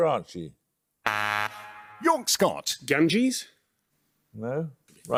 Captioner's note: buzzer